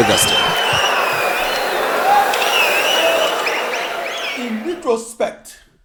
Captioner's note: wild applause and cheering for 22 seconds